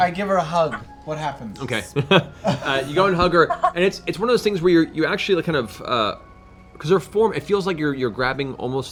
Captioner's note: laughs